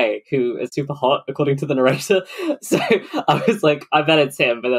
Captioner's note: laughs